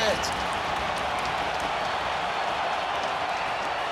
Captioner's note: crowd cheers